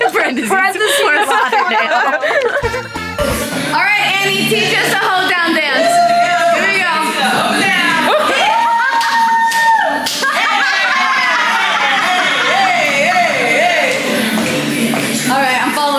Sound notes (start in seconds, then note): 0.8 laughs; 5.9 girls cheer; 8.5 all cheering and laughing; 12.3 upbeat country hip-hop music